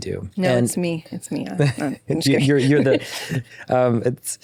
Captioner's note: laughs